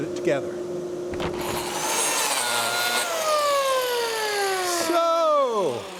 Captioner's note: machine roaring